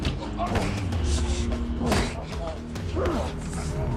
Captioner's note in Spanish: Golpes